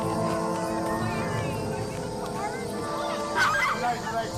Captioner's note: girls chattering